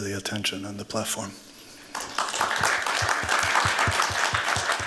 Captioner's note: applause